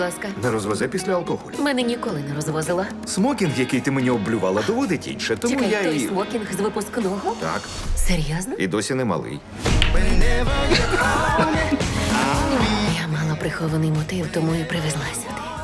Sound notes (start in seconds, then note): 10.4 both laugh